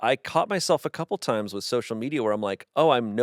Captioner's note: none